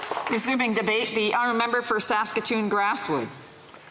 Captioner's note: applause